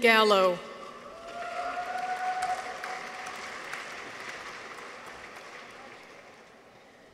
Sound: people cheer; audience applauds

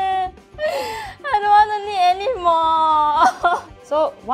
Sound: gasps

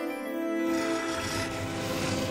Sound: Beowulf growling

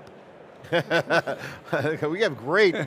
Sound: laughing

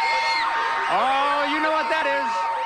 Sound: alarm sounds

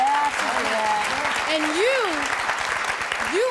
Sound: audience applause

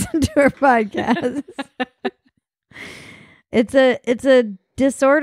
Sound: laughing

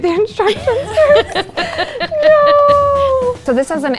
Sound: laugh

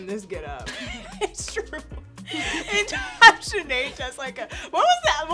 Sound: laughing

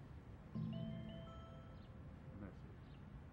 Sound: mobile bleeps - "message"

